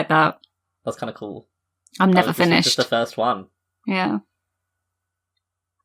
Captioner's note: laughs